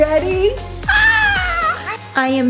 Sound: mom screaming

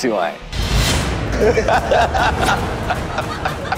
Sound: laughing

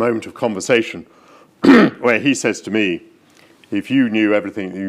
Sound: clears throat

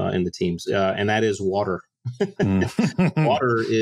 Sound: they laugh

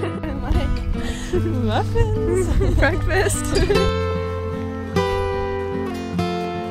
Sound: giggling; giggling; gentle music

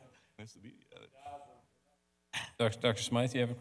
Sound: speaks faintly

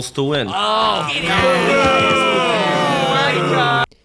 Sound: booing

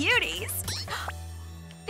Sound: gasps

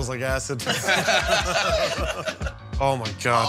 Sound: laughter

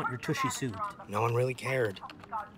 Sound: yelling on phone

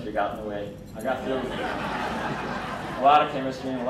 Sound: crowd laughing

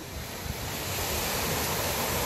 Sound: wave sound

